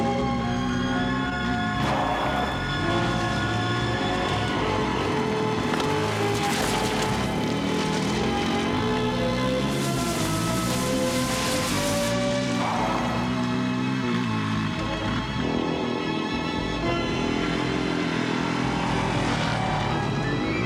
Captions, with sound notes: Forget it, Jonathan. Got to give it a chance. [sighing] Look, I've got my work. That's what's important to me. That's what your father thought. You were complaining about him. And now you're doing the same thing. You two are a lot alike. You know that? Spare me, OK?